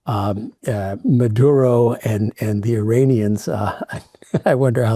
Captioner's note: chuckles